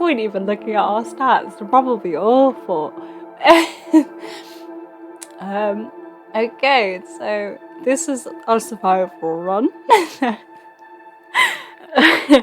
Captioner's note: laughs